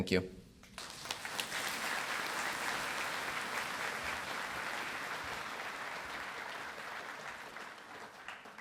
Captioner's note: applause